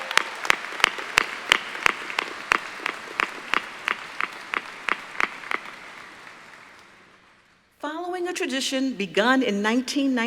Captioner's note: applause